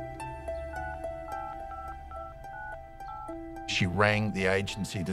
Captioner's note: phone beeps